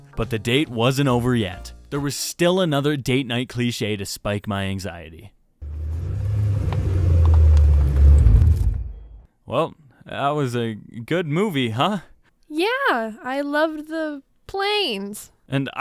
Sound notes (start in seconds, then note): 5.6 Mustang rolls to a stop